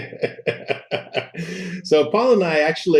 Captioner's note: laughing